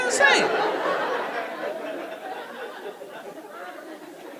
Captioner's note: audience laughing